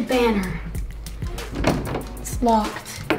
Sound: knob shakes

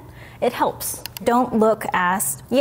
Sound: mouse clicking

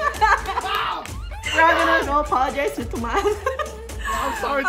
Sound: laughs; giggles

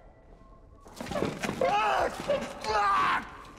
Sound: shouting

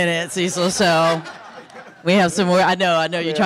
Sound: audience laughing

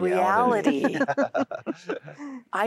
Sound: laughter

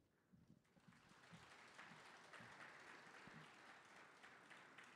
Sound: audience applauding

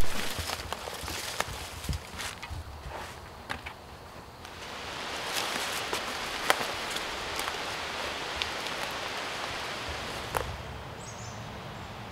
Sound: walking

